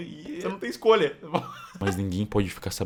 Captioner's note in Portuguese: Risos